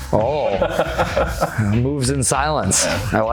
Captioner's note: laughing